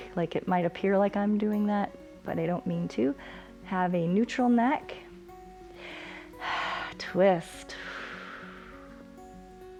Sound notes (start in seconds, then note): 5.7 exhales